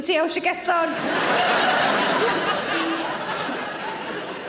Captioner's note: audience laughing